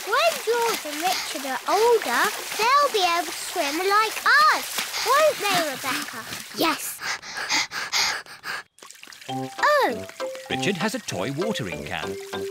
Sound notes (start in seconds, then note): 6.8 both panting